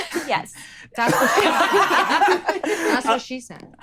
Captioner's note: laughing